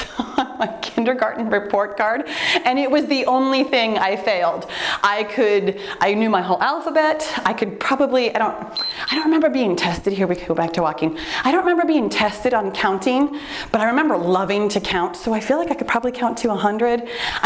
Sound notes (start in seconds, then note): 8.7 timer beeps